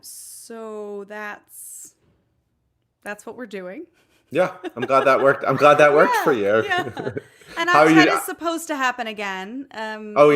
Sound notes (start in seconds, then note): 4.4 laughs